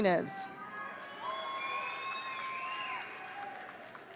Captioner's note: audience cheering